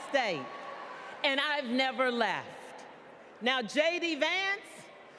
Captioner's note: applause